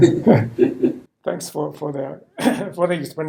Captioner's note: laughing